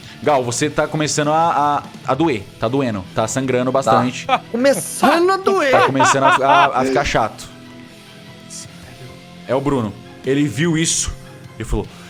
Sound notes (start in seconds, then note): 3.9 laughs